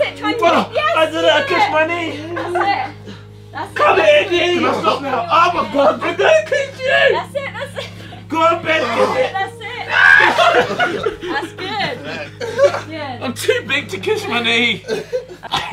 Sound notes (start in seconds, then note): 9.8 Ethan screaming; 10.9 group laughing